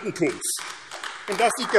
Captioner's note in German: Beifall AfD